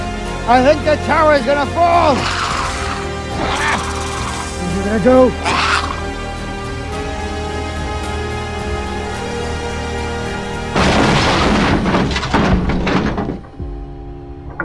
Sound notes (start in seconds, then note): 2.1 Dilophosaurus hissing; 10.6 crashing sound of tower